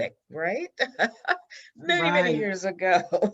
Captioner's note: laughs